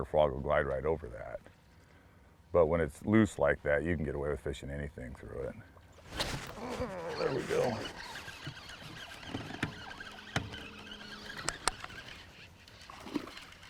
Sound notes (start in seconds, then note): 6.6 rod whipping; 7.4 reel cranking